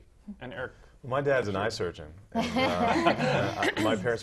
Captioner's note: laugh